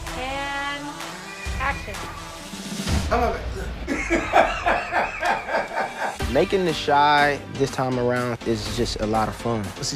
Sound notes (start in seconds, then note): 3.8 laughter